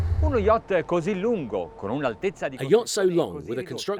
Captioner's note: speaking in foreign language